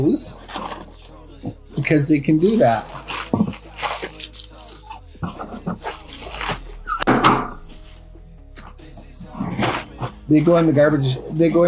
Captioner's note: pop